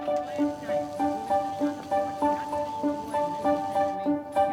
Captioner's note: water sizzling